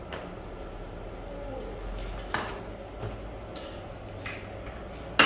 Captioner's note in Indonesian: suara kertas pelindung